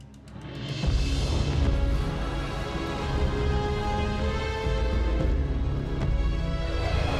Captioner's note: dramatic music; dragon growls